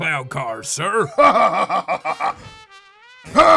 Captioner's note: laughs